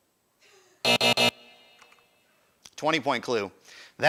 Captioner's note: buzzer